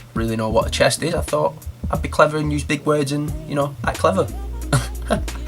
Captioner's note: laugh's